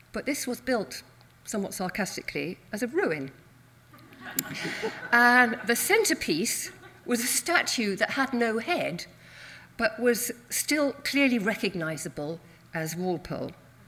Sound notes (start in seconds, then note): 4.0 audience laughs